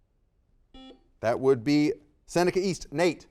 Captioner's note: buzzer dings